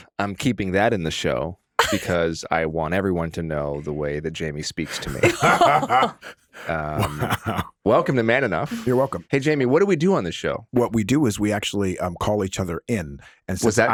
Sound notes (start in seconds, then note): 4.9 laughing